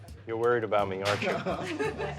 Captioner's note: chuckles